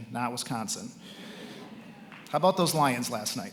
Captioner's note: attendees laughing